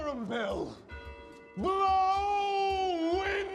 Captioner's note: bells tolling